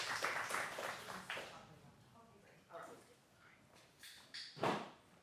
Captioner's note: audience chatting